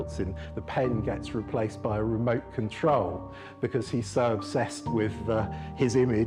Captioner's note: none